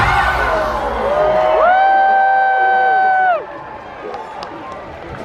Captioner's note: guests cheering